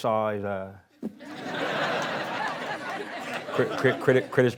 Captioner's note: laughing